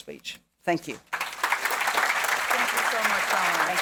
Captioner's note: audience clapping